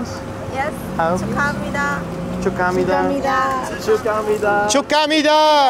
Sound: speaking foreign language

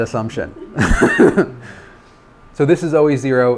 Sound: laughter

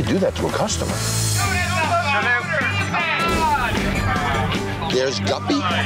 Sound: customers shouting

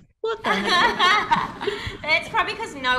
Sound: laughs

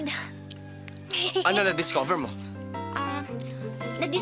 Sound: chuckles

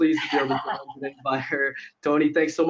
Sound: laughs

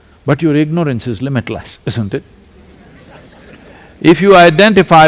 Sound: laughter

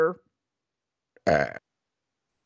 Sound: belches loudly

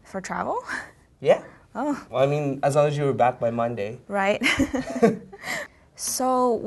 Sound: both laugh

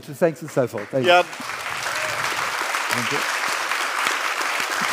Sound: audience applauds

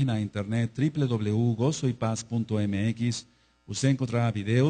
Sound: Spanish

